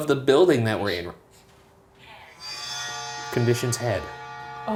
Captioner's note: automated Voice